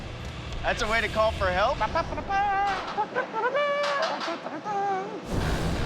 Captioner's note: imitating trumpet